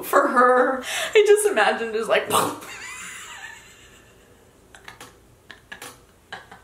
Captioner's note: imitates crashing